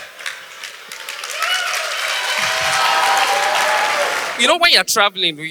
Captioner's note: audience applause